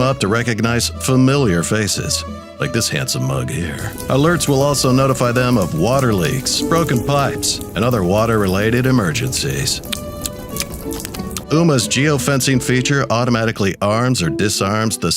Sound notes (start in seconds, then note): 3.3 water dripping; 9.6 dog slurping water